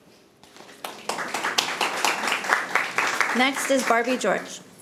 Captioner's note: audience applauding